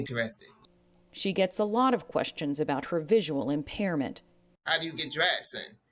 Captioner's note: voice-over